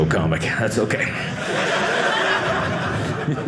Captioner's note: audience laughing